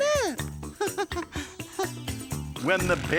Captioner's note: giggling